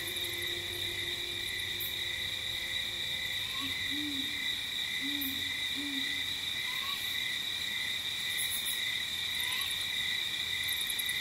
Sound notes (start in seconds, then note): 0.7 crickets chirping; 3.6 light jungle ambience